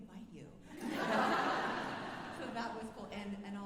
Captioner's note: alumni laughing